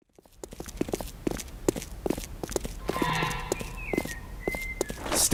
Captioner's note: steps